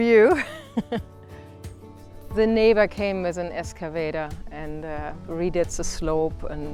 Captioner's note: laugh